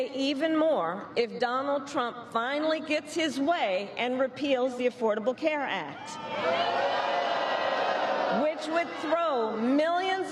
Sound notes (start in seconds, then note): 1.2 cheers and applause